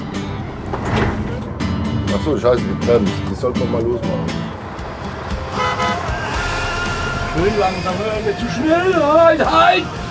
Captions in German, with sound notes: Ach so, die Bremse, die sollte man losmachen. (Hupen) Schön langsam. Zu schnell! Halt! Halt!